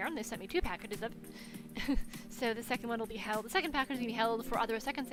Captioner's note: chuckles